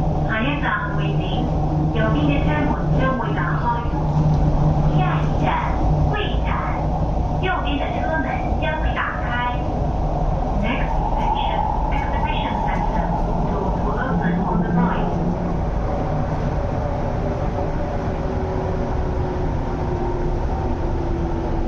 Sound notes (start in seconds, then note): 0.2 Cantonese; 4.7 Mandarin